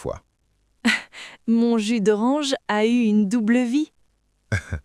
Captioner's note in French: rire